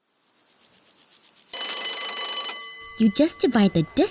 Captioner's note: bell ringing